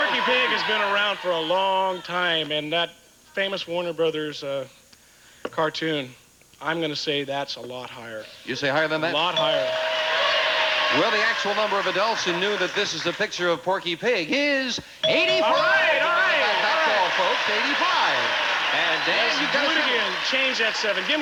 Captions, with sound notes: Listen, Porky Pig has been around for a long time in that famous Warner Bros.' cartoon. I'm gonna say that's a lot higher. You say higher than that? A lot higher. Well, the actual number of adults who knew that this is a picture of Porky Pig is... 85. Alright, alright. [audience applauding] [imitating Porky Pig] Th-th-th-th-that's all, folks. Eighty-five. And Dan does it. Let's do it again. Change that 7.